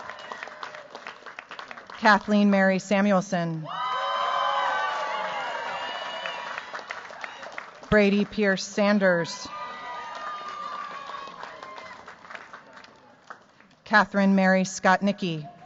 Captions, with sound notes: Kathleen Mary Samuelson. [CHEERS, APPLAUSE] Brady Pierce Sanders Catherine Mary Scott-Nikki.